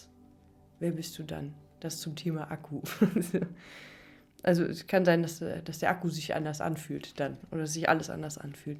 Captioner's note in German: gelächter